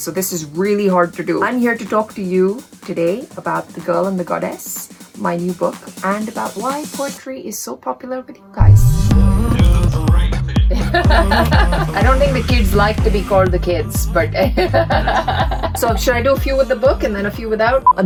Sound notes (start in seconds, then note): 9.0 upbeat music; 10.7 laughing; 14.3 laughing